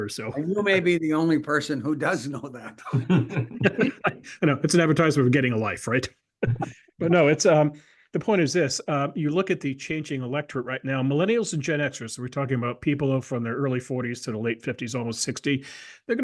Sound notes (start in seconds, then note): 2.6 laugh